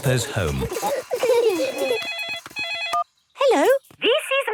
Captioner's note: giggling; phone ringing